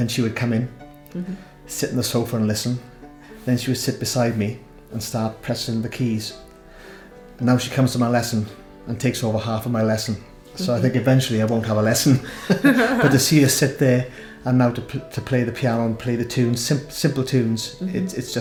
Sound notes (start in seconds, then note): 12.2 laughs